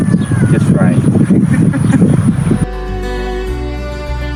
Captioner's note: both laugh; upbeat music